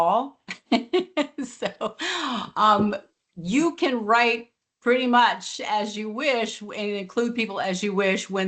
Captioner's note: laughs